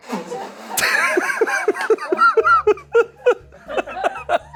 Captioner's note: and crew laugh